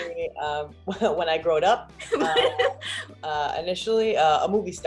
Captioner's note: laughs